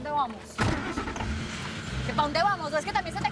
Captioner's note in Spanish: Ruido del vehículo